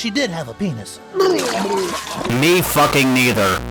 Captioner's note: vomiting sounds